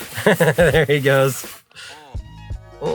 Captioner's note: laughs